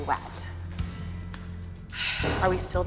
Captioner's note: sighs